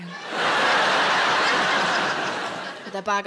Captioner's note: audience laughs